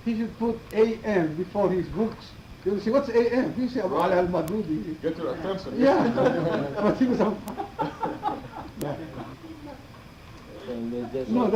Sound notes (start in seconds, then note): 5.7 laughing